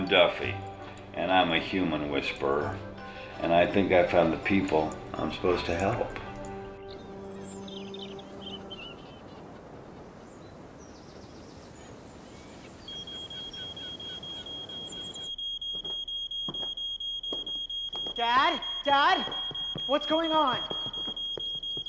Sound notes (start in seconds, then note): 7.6 birds chirping; 13.0 smoke alarm blaring